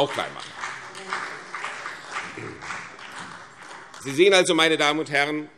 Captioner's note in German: Vereinzelter Beifall CDU